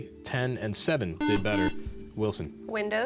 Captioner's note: beep